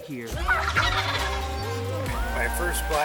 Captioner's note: turkeys cackle